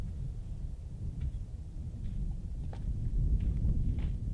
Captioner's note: wind blowing